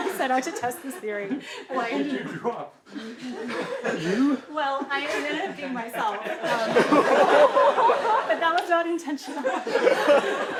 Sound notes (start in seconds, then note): 7.3 laughter